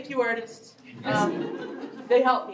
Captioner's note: laughter